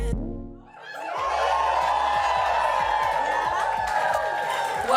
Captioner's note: cheers and applause